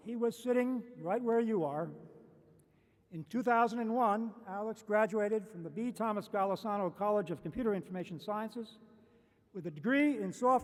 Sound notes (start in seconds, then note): none